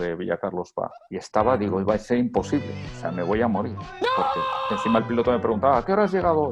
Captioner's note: scream